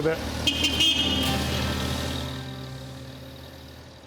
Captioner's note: forklift honks